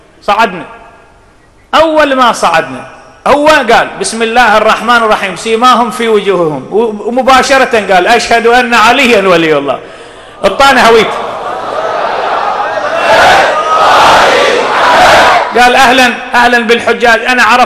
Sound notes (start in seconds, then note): 10.6 Crowd reciting salawat